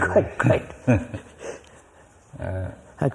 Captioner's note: laughs